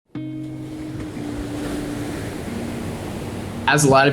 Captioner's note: waves lapping